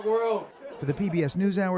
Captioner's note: laughter